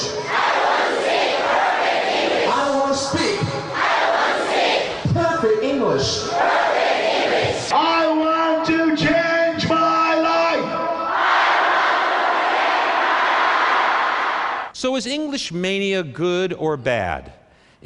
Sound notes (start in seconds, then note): 7.8 yelling more loudly